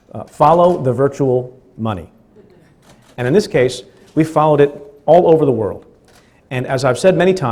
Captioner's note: laughing